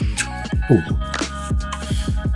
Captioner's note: animator mouth noises